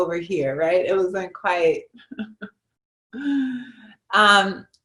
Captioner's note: chuckles